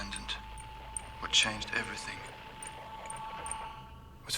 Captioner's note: radio buzzing